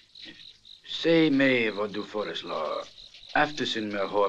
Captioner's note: Spanish spoken audio